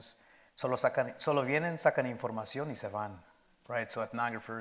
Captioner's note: speaking in Spanish